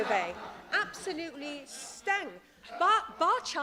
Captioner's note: laughter